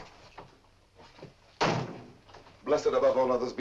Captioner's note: door closes